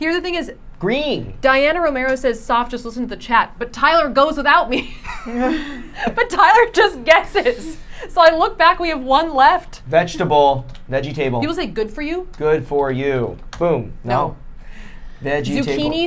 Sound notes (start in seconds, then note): 4.8 laughing